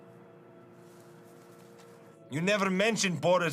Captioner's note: leaves rustling